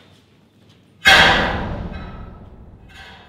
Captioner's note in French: Fort bruit métallique